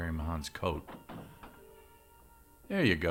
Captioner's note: door clattering